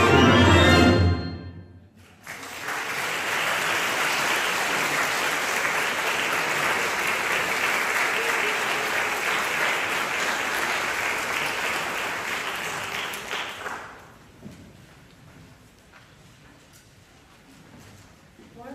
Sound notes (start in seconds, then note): 2.0 applause